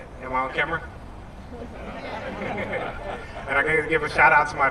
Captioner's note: laughter